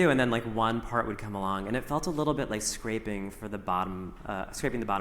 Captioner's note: none